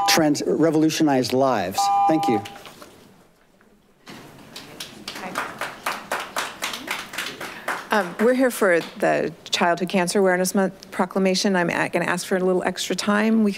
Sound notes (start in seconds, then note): 0.0 buzzer beeps; 1.8 buzzer beeps; 4.2 audience members clapping